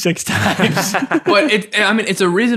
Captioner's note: all laughing